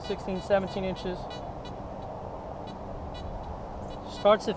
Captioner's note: detector beeps